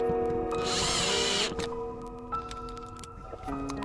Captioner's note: drill sounds